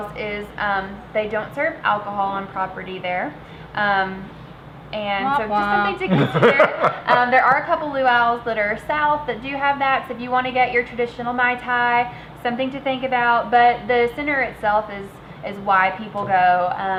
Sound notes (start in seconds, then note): 5.3 imitating horn; 5.9 laughing